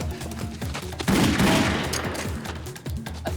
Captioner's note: gunshots